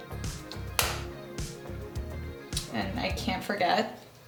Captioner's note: clap